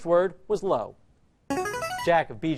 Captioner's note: answer bell